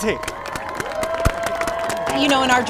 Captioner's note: all applauding